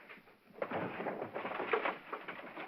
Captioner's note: paper rustling; drawer clattering